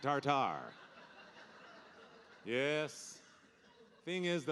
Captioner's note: audience laughing